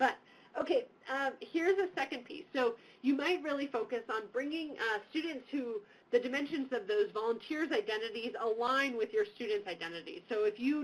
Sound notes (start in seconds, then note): none